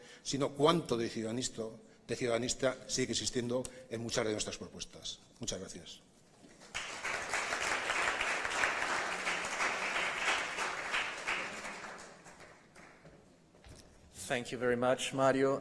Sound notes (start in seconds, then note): 6.5 applause